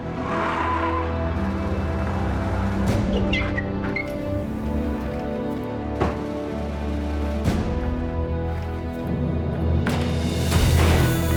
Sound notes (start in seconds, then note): 0.0 tires squealing; 6.0 door closes; 7.1 running footsteps; 9.9 pushes doors open